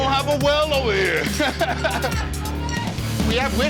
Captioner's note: laughter